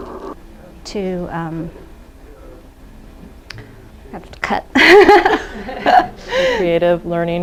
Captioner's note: laughs